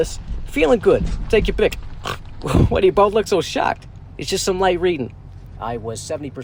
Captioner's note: snort